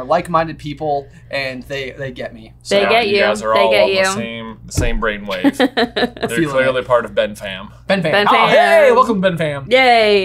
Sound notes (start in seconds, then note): 5.3 laughing amusingly